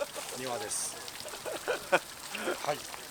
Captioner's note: laughs